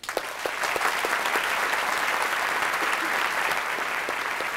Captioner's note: applause